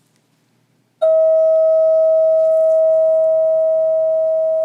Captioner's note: bell